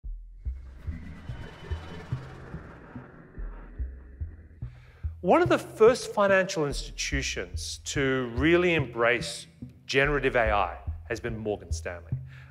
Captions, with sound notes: (logo fluttering) (gentle foreboding music) - One of the first financial institutions to really embrace generative AI has been Morgan Stanley.